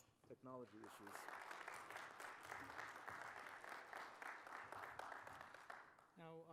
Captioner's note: applause